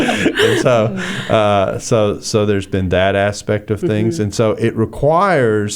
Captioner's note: laughter